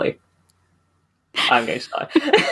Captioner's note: laughs